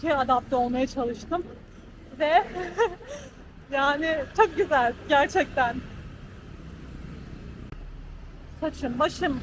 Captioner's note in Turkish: kahkaha